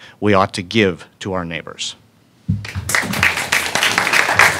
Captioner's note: applause